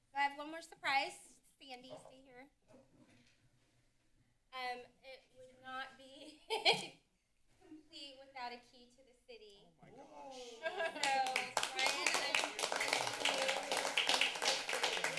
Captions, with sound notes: -I have one more surprise, Sandy, stay here. Um, it would not be [laughs] complete without a key to the city. -Oh, my gosh. [laughter][applause] -So Ryan I'm presenting you with the key to the city. [applause]